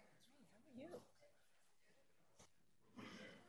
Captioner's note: chatter